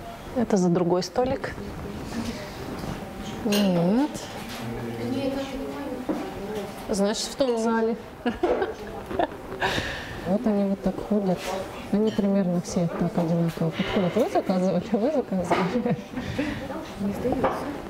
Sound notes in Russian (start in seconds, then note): 8.2 смех